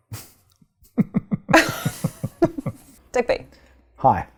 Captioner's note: laughing